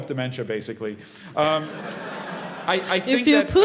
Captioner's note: laugh